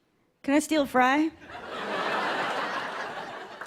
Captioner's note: laughter